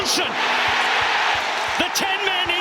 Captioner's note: crowd erupts